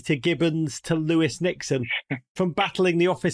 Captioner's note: ron chuckles